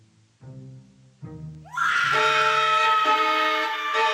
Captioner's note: woman screams in terror